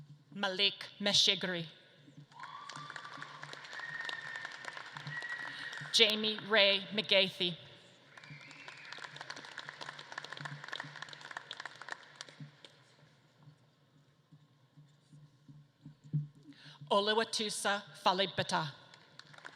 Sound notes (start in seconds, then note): 2.2 audience claps and cheers; 8.0 audience claps